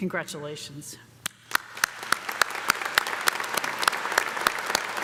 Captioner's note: audience applauding